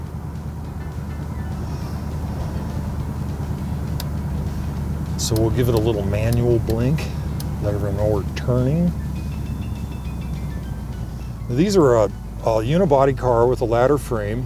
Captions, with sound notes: (soft music) (engine roaring) So we'll give it a little manual blink. Let them know we're turning. (soft music) These are all unibody car with a ladder frame.